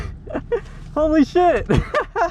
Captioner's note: laughing